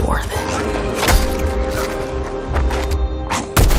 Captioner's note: squelching